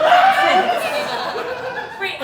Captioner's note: audience Cheering